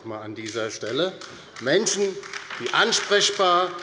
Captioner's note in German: Beifall bei der LINKEN